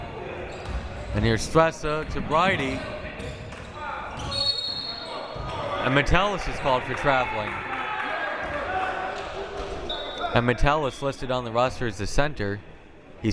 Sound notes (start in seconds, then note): 4.3 whistle